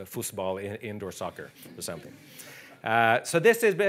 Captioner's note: audience chuckling